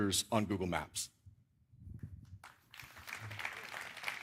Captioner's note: applause